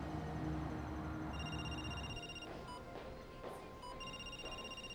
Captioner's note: phone ringing